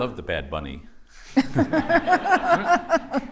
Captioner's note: laughter